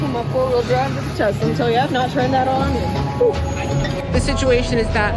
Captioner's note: exclaims